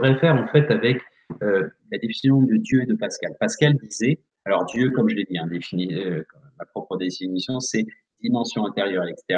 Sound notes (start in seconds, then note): 6.0 in french: D.I.E.U: Divisions interieures et exterieures universels